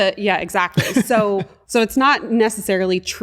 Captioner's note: laughter